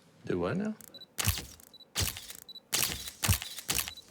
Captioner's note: camera clicking